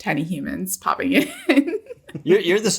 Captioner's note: giggles